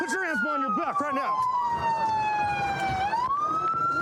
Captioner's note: sirens blaring